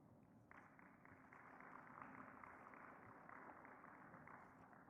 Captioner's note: audience clapping